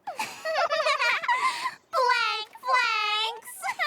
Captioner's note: both laugh